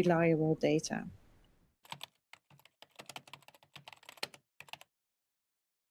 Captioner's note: typing